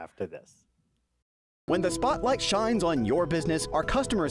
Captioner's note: voice-over